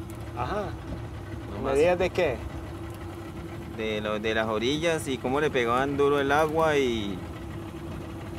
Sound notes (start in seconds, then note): 1.5 speaking in foreign language